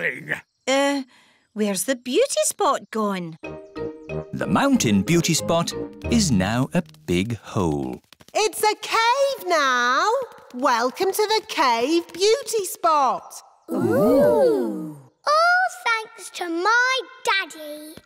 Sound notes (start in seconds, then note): 8.1 echoing